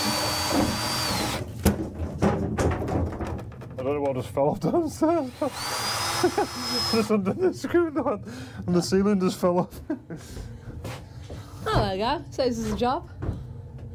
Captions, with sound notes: I don't know what just fell off the... [Laughter] undone the screw and the ceiling just fell off.